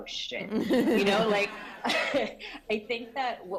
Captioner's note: laughter